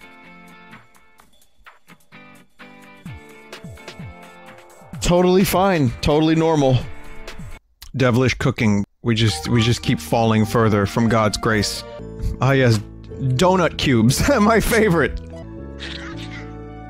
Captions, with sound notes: Totally fine, totally normal. Devilish Cooking. We just, we just keep falling further from God's grace. Ah yes, donut cubes. [Small laugh] My favorite.